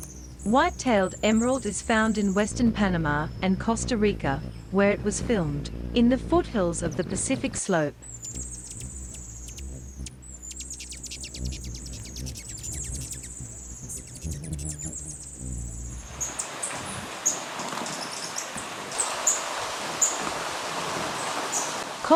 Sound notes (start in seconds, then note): 7.9 birds chirping; 8.9 bird wings flapping; 16.2 rain; 16.8 birds chirping